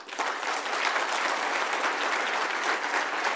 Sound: applause

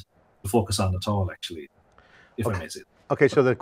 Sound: murmurs

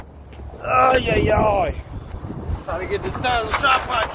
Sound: grumbles

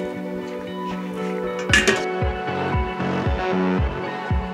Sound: pot tinkling

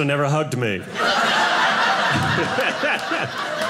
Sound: audience laughing

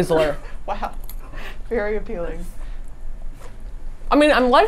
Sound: laughs

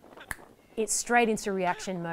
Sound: finger snap

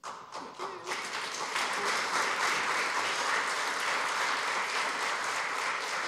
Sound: applause

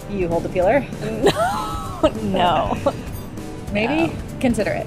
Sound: laughing

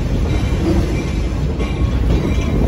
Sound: train ringing bell

